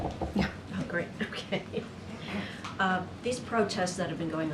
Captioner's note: laughs